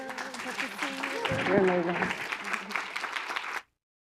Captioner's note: applause